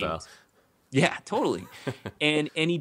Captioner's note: laughs